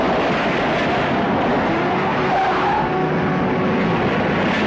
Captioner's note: truck wheering